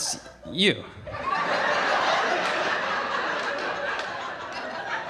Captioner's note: audience laughing